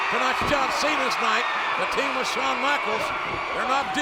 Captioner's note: blow thudding